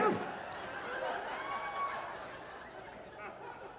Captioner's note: audience laughing